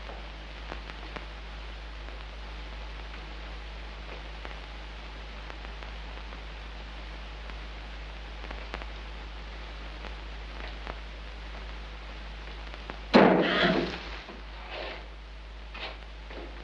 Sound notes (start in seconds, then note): 13.3 Madeline gasps